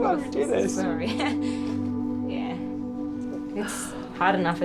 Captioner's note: chuckles